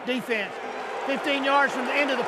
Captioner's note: booing